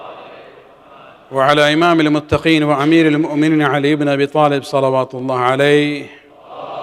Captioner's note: arabic